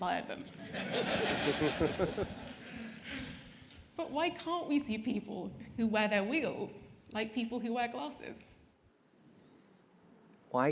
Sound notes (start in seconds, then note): 0.9 laugh